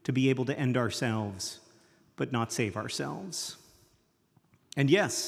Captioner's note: none